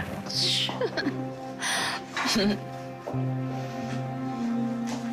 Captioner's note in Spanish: Risas